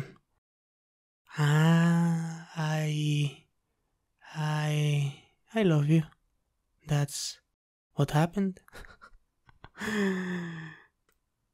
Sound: laugh

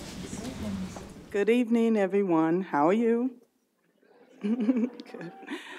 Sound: chuckles

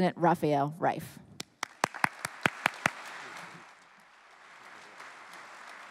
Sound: applause

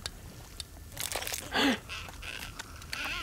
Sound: gasping; squeaking

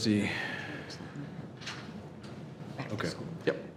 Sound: faintly speaking

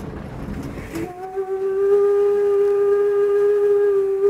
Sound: train whistle

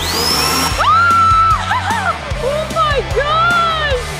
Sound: machine whirring; screaming

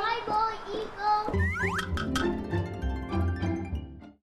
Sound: playful music; slide whistling squeaking

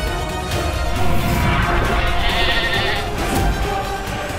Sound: goat bleating

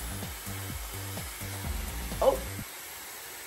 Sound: Dyson whirring

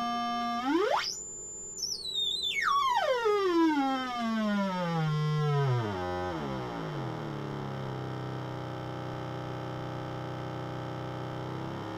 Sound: drone with varying pitch

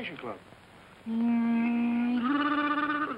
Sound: makes airplane noises

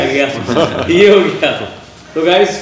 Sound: laughs

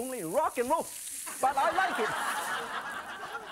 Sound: laughing

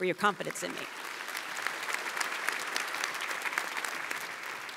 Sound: audience applauds

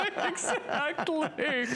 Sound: laughter

